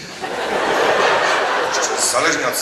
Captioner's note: audience laughs